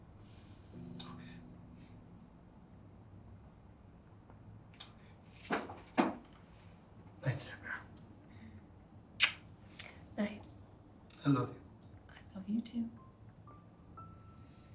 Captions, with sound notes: It's OK. Alright. Night Sarbear. [kiss] Night. I love you. I love you too.